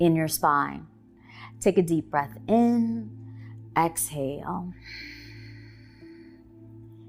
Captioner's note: exhaling